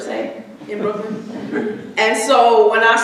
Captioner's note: audience chuckling